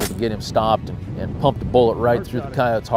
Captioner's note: gun firing